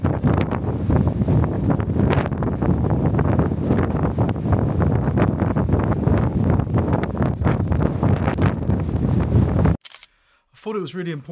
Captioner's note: wind noise